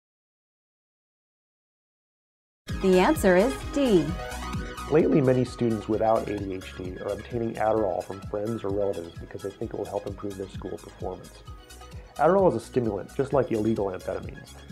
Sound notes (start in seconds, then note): 1.9 female announcer speaking